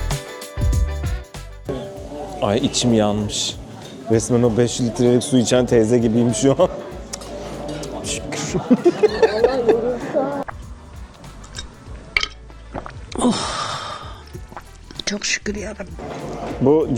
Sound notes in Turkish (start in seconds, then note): 8.3 kahkaha; 13.1 iç çeker